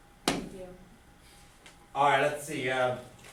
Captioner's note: voiceover